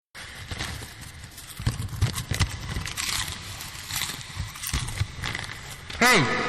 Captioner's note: rustling through Popcorn; eating Popcorn